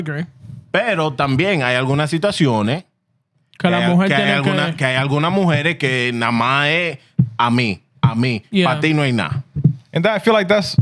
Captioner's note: speaking Spanish